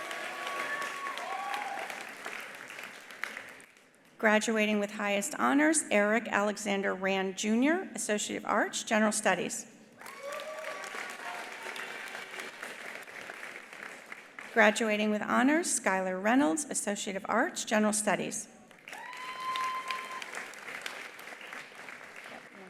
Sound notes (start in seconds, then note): 0.0 attendees cheering; 0.0 attendees applauding; 10.0 attendees cheering; 10.0 attendees applauding; 18.8 attendees applauding; 18.9 attendees cheering